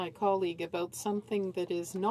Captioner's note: speaking French